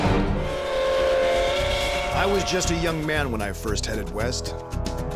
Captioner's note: train whistle; gunshots